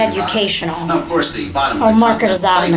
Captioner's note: laughter